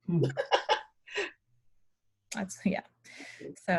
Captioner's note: laughing